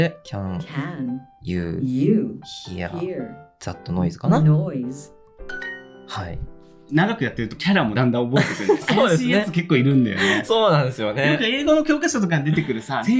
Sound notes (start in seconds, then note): 11.1 laughs